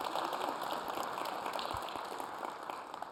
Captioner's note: applause